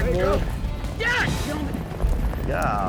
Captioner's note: yells